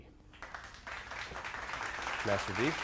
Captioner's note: audience clapping